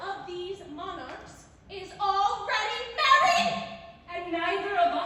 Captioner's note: yells